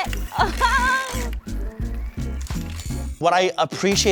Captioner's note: machine whirring